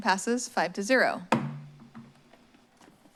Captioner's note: strikes gavel